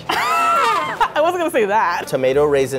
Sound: laughs

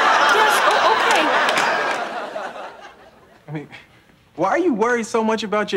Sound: audience laughing

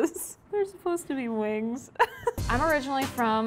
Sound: laughs

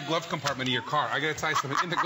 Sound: laughter

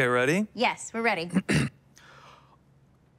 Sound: clears throat

